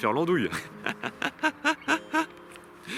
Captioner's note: laughs